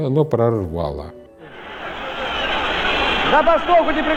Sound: whistles, cheers from the crowd

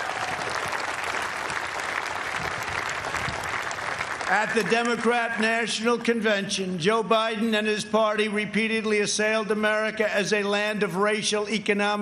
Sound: applause

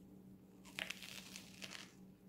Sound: crunch

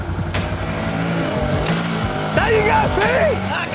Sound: engine revving

